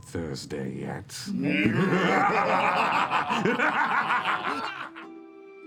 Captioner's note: evil laughter